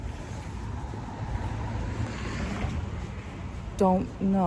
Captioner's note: vehicle passes